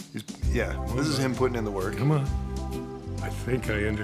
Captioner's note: none